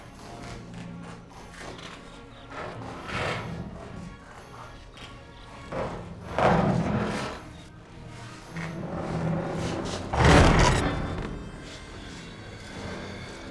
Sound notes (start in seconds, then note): 9.9 groaning